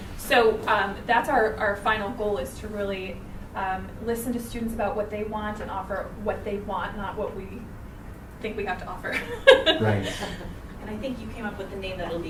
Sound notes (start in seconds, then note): 9.1 laughs